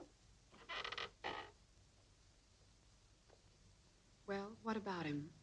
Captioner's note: stairs creaking